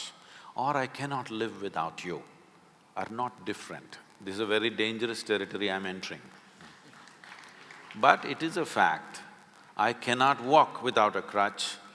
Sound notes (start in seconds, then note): 6.6 few applaud